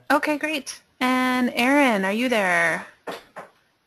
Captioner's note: voiceover